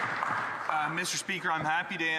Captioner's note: some Applause